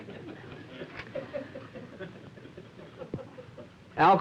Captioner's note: laughter